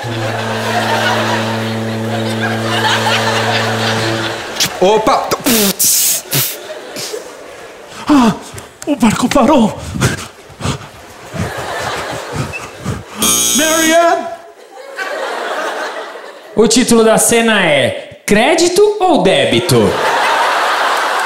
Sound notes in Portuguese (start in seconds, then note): 0.0 buzina de navio; 5.4 barulho de freio de ônibus; 13.2 campainha